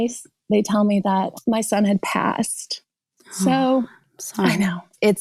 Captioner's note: gasps